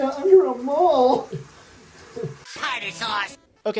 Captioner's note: crying